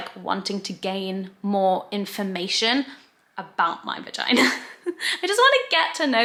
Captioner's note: laughs